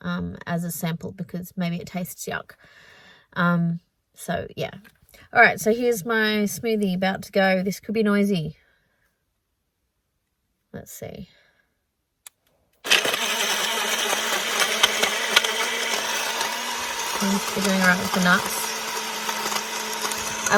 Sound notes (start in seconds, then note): 12.2 click; 12.8 loud whirring and light clunking noise of nuts blending; 19.3 whirring continues